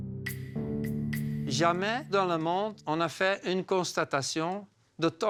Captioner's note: French spoken audio